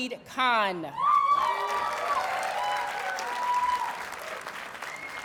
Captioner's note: audience cheers and applauds